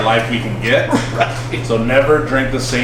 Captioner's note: laughing